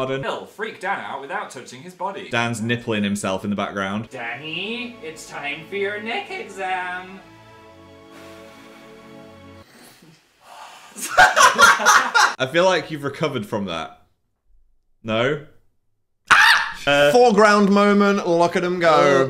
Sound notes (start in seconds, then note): 7.5 blowing air; 8.1 laughing; 16.2 screams